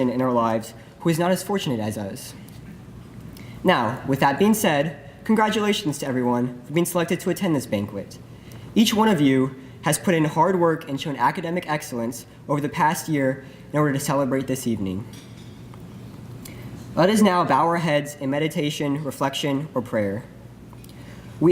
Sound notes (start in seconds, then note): none